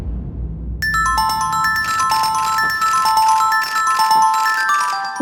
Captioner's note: loud chiming bells